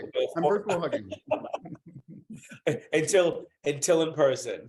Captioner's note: laughing